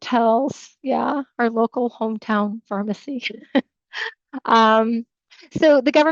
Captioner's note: chuckles